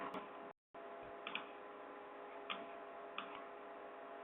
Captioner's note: clicking